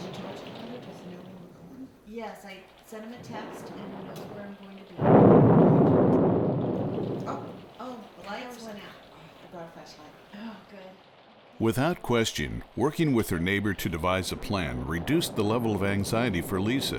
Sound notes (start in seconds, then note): 5.4 thunder